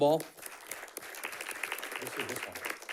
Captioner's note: audience clapping